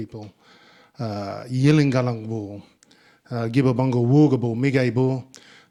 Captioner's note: speaking in Ngunnawal